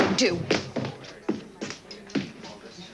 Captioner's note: stomping